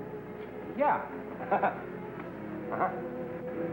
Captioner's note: laughs nervously